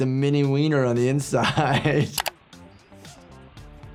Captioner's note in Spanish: risas